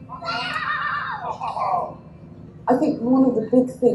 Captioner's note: kids laugh